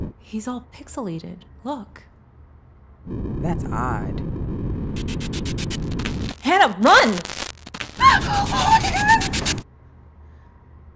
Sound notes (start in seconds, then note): 4.2 distorted static; 7.8 scream; 8.8 distorted static